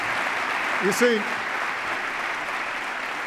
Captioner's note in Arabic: تصفيق